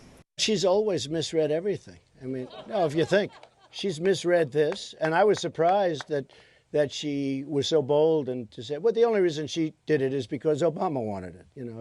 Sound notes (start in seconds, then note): 2.2 laughter